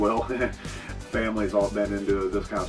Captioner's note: chuckles